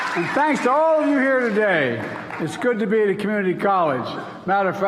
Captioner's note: applause